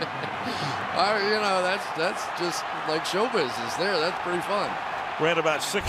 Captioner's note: laughs